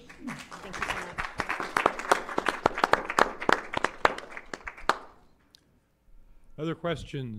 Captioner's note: applause